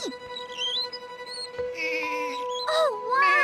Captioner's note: bleating